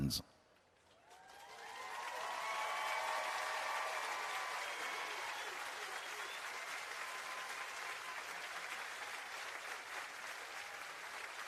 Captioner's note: applause